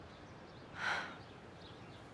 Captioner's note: sighs